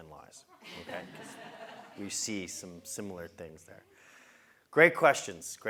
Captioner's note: laugh